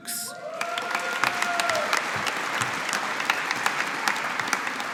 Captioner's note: audience applauding